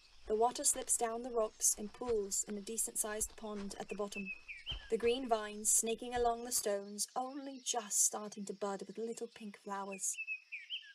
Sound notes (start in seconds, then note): 9.6 birds chirping